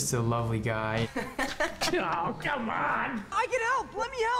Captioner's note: both laugh